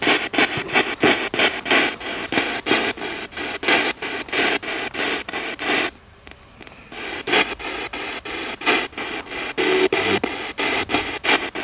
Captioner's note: radio noise from the spirit box